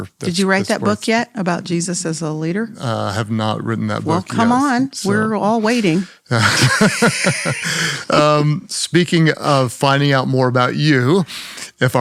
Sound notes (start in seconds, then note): 6.3 both laugh